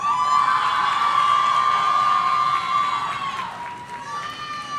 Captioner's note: audience cheering